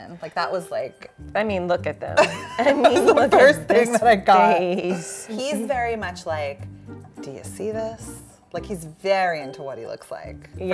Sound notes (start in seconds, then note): 2.2 both laughing